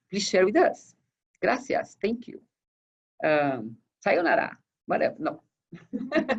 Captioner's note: laughs